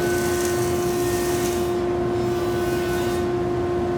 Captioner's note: joiner whirring